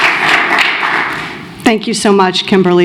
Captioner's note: applause